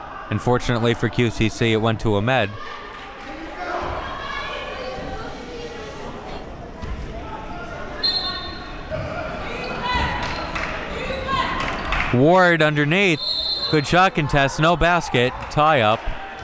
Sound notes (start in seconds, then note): 8.0 whistle blows